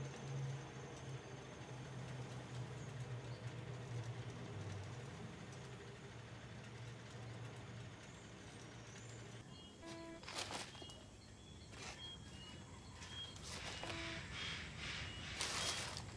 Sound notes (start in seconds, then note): 9.5 electronic beeping